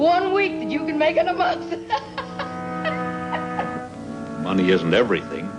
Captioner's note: laughing